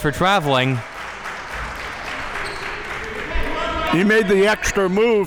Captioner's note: audience applauding